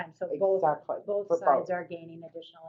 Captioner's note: voiceover